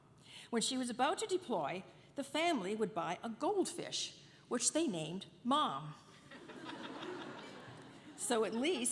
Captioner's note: laughter